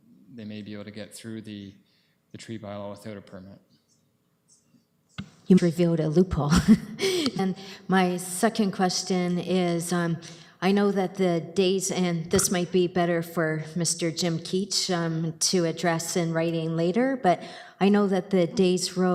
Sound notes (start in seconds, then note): 6.5 chuckles